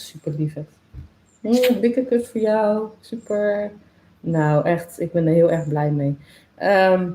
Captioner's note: kiss sound